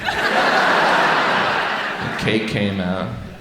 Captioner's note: audience laughs